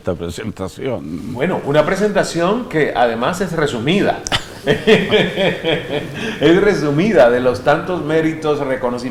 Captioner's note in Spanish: jaja risas